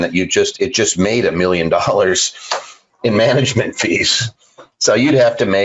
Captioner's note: laughs